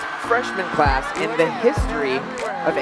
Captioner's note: audience cheering; uplifting music